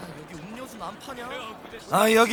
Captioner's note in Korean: 시민 소음